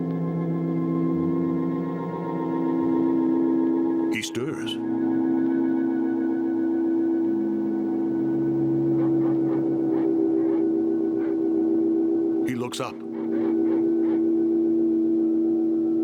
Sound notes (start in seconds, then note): 8.1 dogs barking in distance